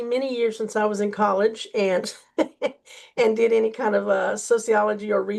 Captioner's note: laughs